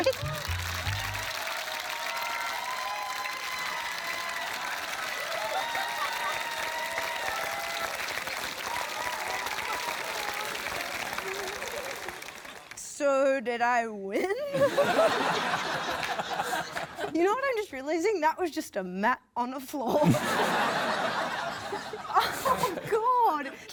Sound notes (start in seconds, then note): 0.2 cheering, applause; 5.3 laughs; 14.2 laughter